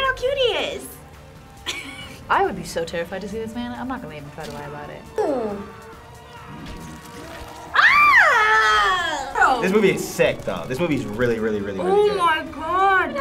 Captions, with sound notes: - Look at how cute he is! (laughs) - I would be so terrified to see this man, I'm not gonna even try to lie about it. - Ooh! (screams) - Bro! - This movie is sick, though. This movie is really, really, really, really good. - Oh my God!